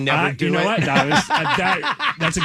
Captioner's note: laughing